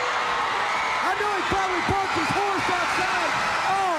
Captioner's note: crowd cheering